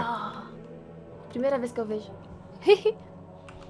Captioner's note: giggles